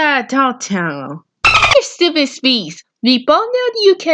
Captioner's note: beep